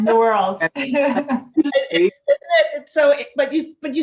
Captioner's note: laughter